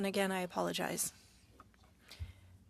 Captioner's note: speaking French